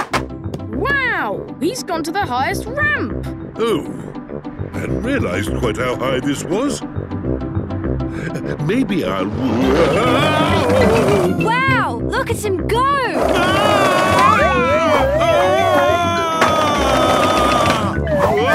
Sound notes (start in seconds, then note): 13.8 shouting